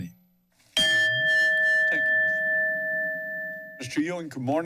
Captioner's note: bell rings